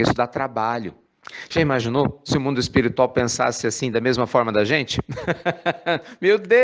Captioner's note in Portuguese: Risos